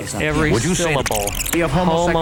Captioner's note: tape scratching